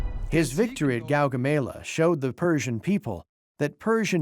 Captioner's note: in German